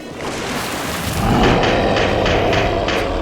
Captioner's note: monster roars